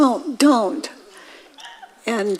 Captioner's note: audience laughing